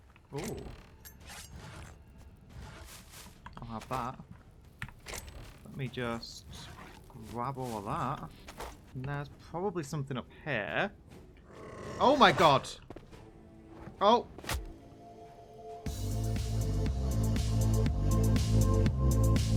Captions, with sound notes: Ooh... I'll have that. Let me just... grab all of that... & there's probably something up here [trork roars] OH, MY GOD. Oh!